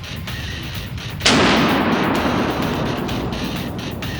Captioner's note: gunshot; rock music